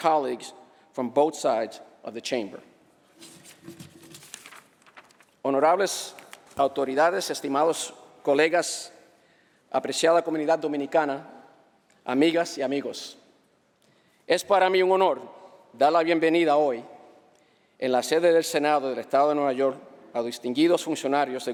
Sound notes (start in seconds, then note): 6.7 speaking spanish